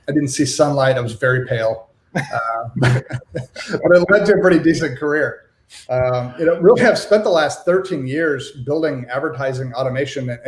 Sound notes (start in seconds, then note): 2.1 laughs